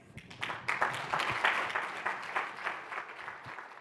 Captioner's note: clapping